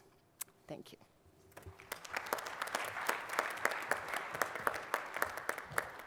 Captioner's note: applause